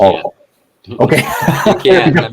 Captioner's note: laughs